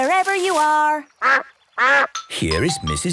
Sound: quacks

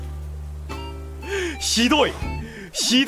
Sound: inhales

